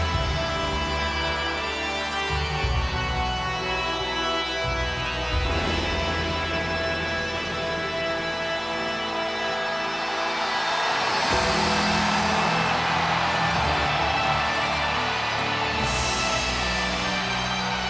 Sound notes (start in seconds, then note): 0.2 ominous music continues; 1.9 audience cheers; 13.9 audience cheers